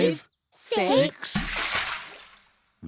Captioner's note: splash